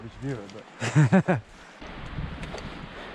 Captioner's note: chuckling